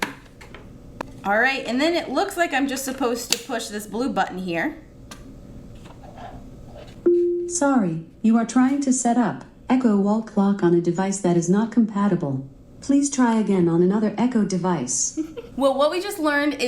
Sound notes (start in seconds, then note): 7.1 clock beeping